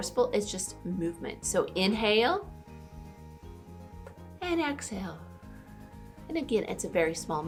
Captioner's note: inhales; exhales